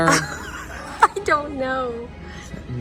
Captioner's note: laughing